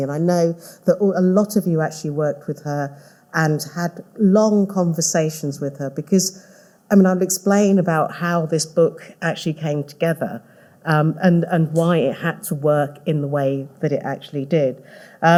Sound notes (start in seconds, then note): none